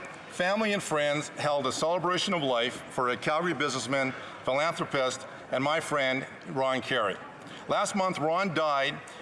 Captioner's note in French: voix de l'interprète